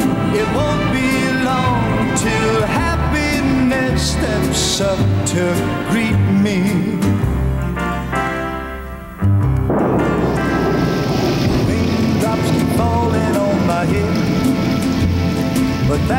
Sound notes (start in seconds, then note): 7.7 light keyboard music; 9.4 thunder rolling